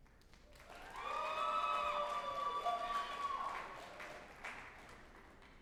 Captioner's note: group applauding and cheering